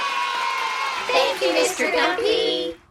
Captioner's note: cheering